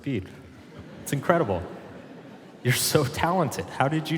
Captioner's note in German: Publikum lacht